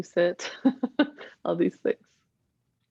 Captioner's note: laughing